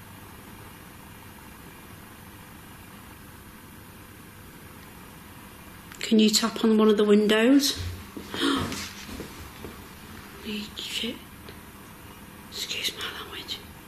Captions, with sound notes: Can you tap on one of the windows? (gasps) Shit. Excuse me language.